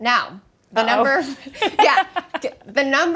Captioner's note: laughs